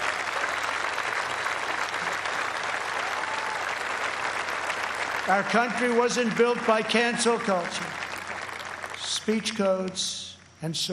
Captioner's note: applause